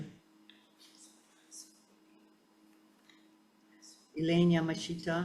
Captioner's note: faintly speaking